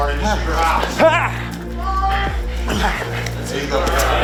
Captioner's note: grunts